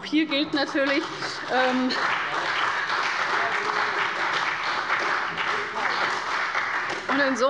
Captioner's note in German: Beifall bei der CDU und dem BÜNDNIS 90/DIE GRÜNEN